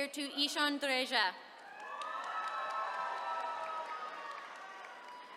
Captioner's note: attendees cheering